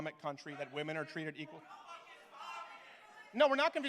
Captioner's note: protestors Shout